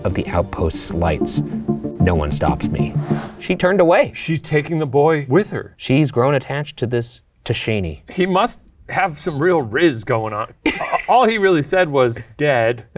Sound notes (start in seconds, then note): 10.7 chuckles